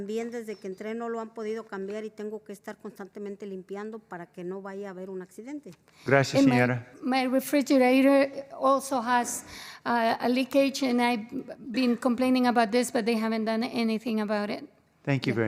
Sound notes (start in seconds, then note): 3.0 spanish